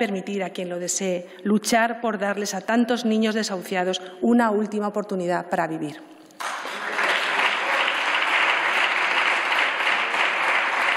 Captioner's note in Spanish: Aplausos